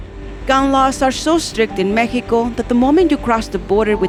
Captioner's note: voiceover